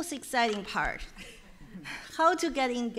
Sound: chuckles

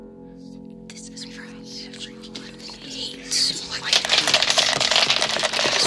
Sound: dice rolling and falling; monster's voices whispering

